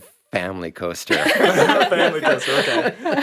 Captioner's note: group laughing